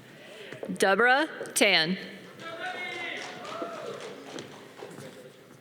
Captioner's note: audience cheering